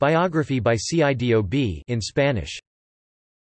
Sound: in Spanish

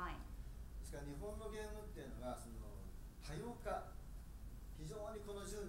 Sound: speaking in foreign language

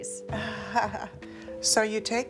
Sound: laughing

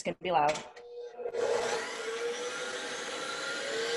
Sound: mixer whirring

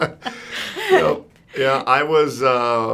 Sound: laughs

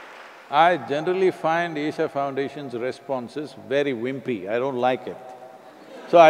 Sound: laughter

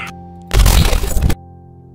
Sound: deletion noises

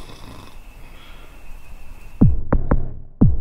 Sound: snore snore

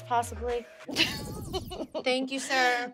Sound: laughs

